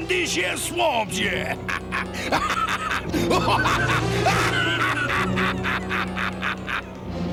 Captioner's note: laughing